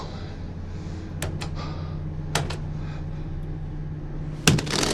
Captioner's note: gasps; buttons clicking